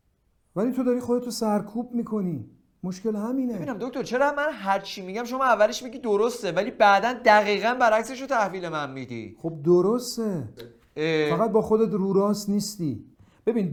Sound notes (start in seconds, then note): none